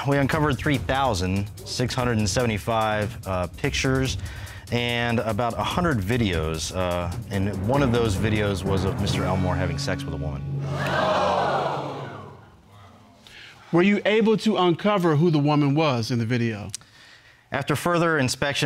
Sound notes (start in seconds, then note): 10.6 audience gasps